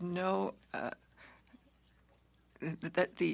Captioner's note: speaking French